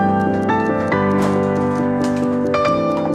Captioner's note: rattling